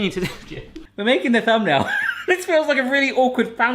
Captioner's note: laughs